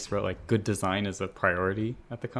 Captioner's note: none